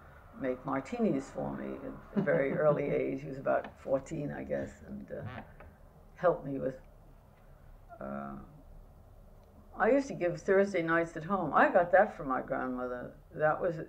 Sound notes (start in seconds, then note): 2.1 laughter